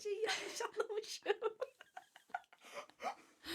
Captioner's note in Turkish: kahkaha